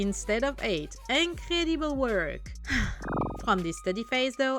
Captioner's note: sigh